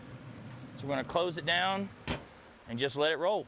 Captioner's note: lid bangs